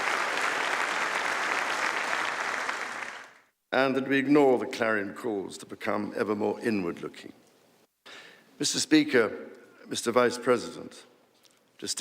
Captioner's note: applause